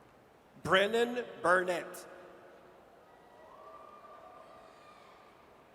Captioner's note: audience cheers